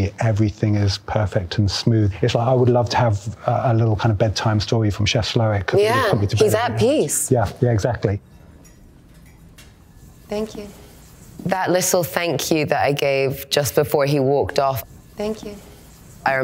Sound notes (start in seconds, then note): 8.2 cutlery clinking